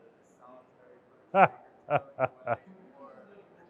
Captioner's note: laughing